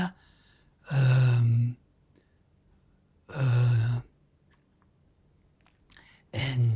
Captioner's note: pauses 6 seconds